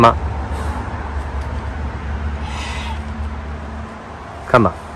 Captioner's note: heavy Breathing